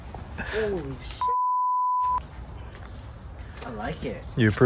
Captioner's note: laughter; beep